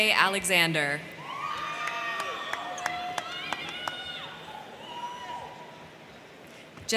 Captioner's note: crowd cheering; crowd clapping